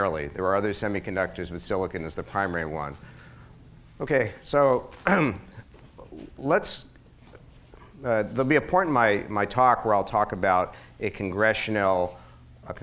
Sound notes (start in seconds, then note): 5.0 clears throat